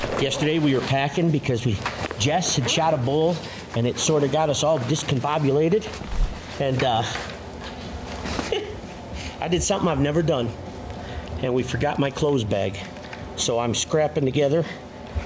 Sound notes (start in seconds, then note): 8.3 laughs